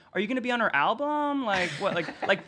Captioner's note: laughing